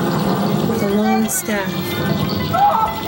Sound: thunder

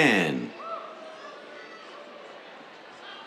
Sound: cheers

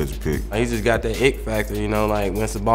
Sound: voiceover

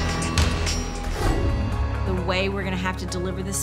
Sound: dramatic music; whoosh

